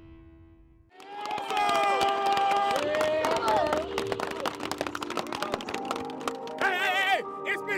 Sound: clapping

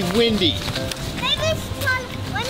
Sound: footsteps rustle in leaves; happy music

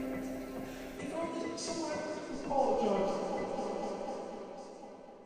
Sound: internal monologue

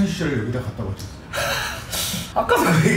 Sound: laughing

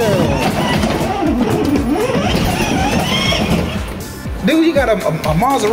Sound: toy car engine revving

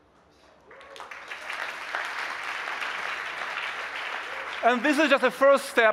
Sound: applause

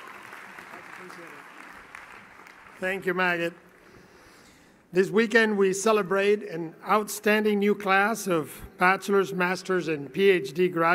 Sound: cheering and Applause

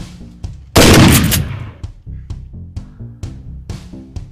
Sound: gun firing

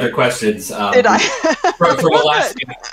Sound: laughs

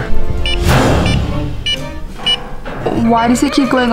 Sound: sensor beeping

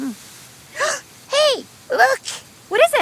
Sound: gasps

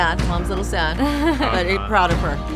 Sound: laughing

